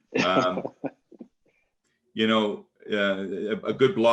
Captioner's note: laughing